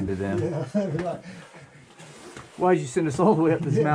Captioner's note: laughing